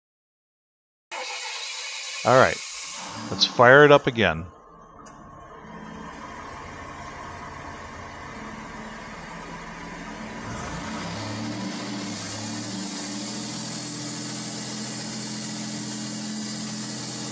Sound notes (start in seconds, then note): 10.3 engine & spinning noise